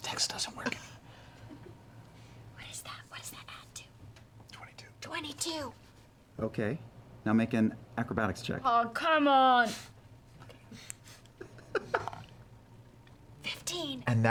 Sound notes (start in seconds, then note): 2.6 whispers